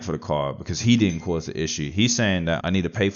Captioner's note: ping